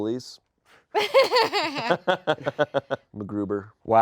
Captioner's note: laugh